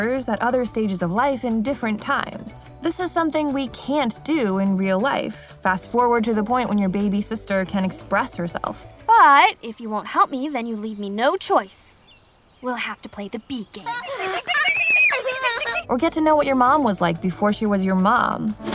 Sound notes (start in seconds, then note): 13.8 cries and screams